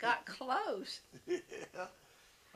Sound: laughs

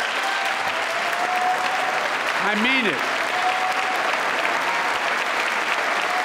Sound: applause

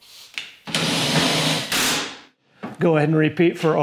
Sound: drill whirs

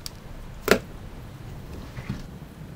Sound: pen slams

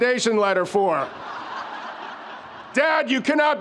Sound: audience laughs

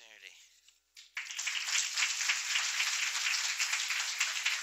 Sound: applause

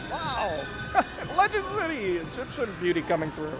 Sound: laughing

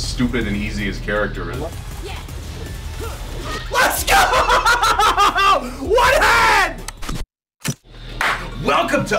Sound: laugh

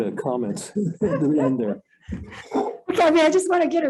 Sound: all laughing

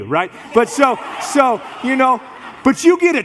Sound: congregation laughs

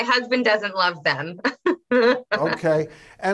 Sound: Loren laughs

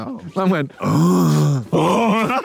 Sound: grunting

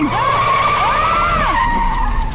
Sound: screaming

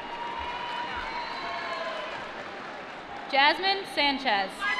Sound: applause

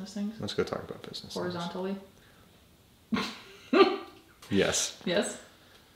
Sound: laughs

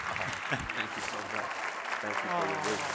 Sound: applause

